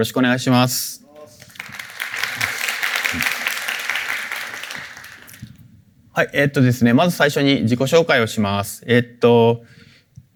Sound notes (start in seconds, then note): 1.2 applause